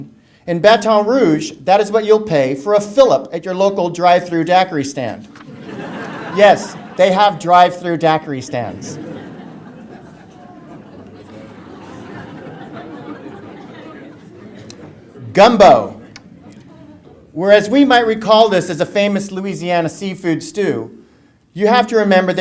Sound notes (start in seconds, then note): 5.1 audience laughter; 8.3 laughter